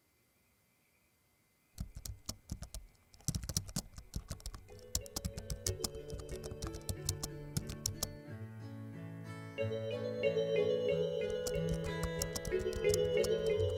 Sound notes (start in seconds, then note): 1.5 computer typing